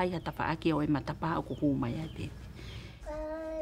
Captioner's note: background Foreign Language